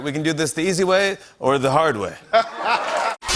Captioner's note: laughter